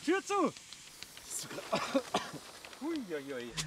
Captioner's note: cough